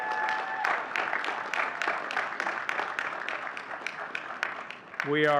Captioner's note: audience cheering and clapping